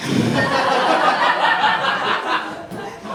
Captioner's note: laughter